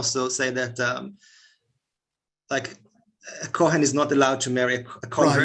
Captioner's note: Hebrew